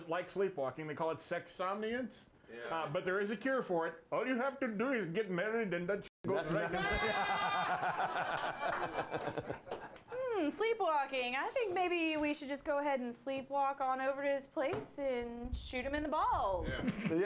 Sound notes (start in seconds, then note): 8.3 bell rings; 8.9 laughter